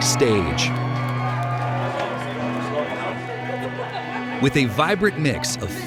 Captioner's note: audience applauding and cheering